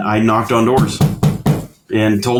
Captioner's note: knocking sound